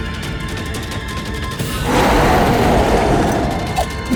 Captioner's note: roar